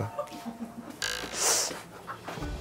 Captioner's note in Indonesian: Menggaruk